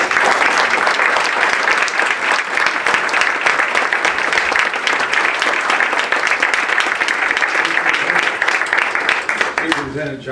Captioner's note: audience claps